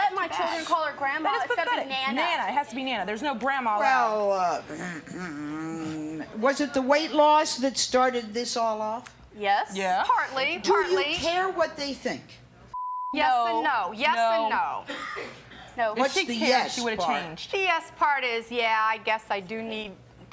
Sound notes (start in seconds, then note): 4.7 throat clearing